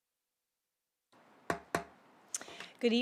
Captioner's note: gavel hitting dais